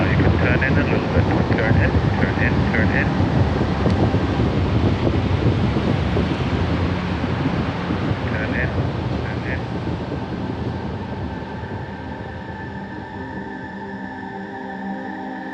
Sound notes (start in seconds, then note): 3.8 wind rustling; 12.7 gentle music